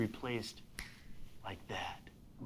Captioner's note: fingers snap